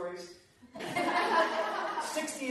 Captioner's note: laughter